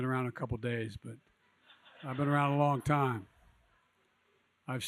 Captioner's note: laughter